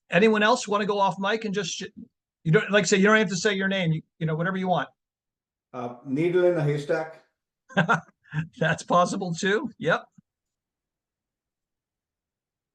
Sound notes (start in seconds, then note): 7.7 laughing